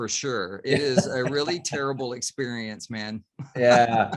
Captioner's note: chuckles